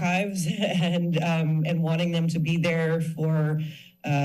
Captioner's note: chuckles